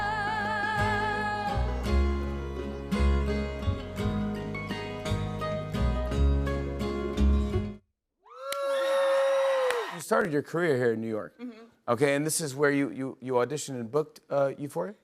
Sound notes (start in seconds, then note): 8.3 cheers and applause